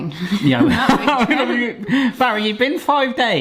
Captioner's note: both laughing